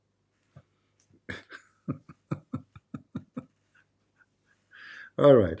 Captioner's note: Ketawa